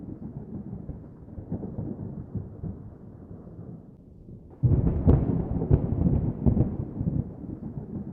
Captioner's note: thunder